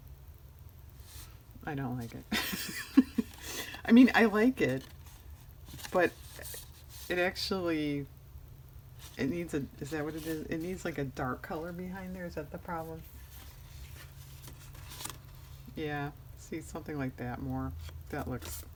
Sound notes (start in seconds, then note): 2.3 laughs